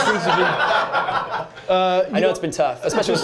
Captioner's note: laughter